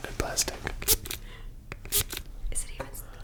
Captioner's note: failed spritzing